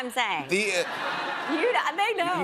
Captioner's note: laughter